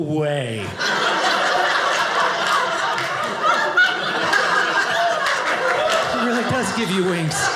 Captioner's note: audience laughing